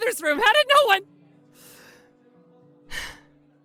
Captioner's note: deep breath